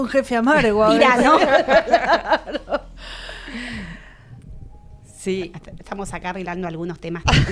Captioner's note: laughs